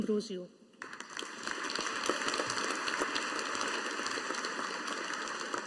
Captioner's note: audience applauding